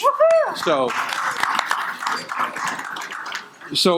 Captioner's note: audience applauding